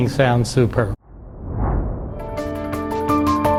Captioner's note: whoosh of air